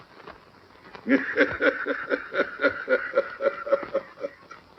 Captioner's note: laughing